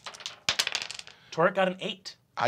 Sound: dice clack

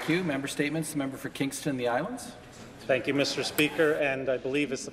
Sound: some Applause

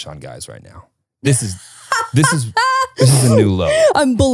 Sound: laughing

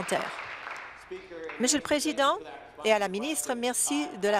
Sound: applause

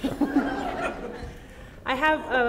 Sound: laughter

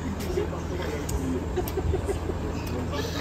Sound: laughs

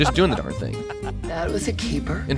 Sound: laughing

